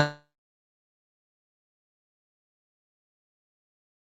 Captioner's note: silence